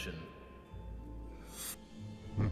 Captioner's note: whooshing; evil laughing